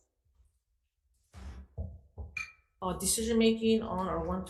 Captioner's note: gavel bangs